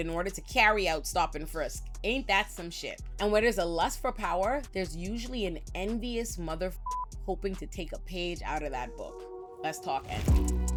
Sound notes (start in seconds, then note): 6.8 beep